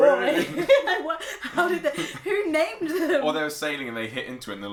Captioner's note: laughs